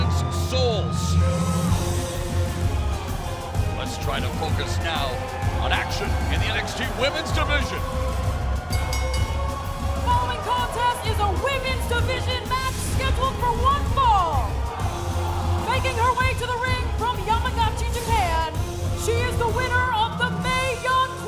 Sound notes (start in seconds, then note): 8.6 bell ringing; 15.1 crowd cheering